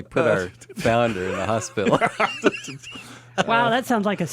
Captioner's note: laughs